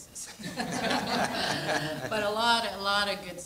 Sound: audience laughs

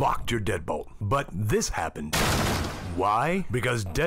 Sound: door loudly smashes

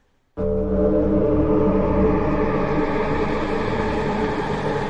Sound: eerie Sounds

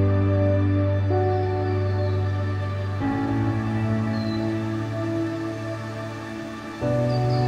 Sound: birds chirping; smooth music continues

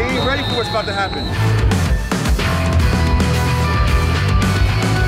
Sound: whistle blowing

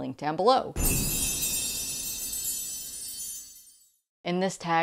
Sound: loud chimes

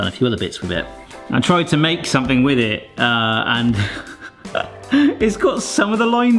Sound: chuckles

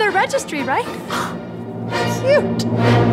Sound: gasps

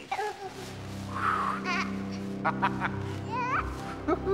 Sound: laughing

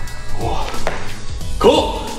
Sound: sighing

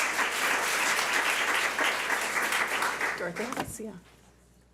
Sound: public applauding

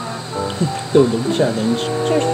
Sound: chuckles

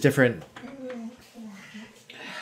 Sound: yawn

